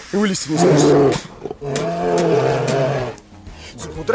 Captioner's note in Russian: рёв